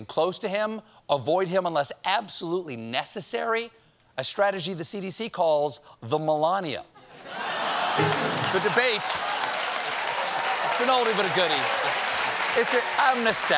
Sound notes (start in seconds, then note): 7.0 laughter; 7.9 applause